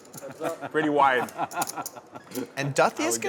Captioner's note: laughing